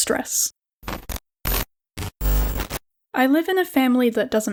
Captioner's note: glitching sounds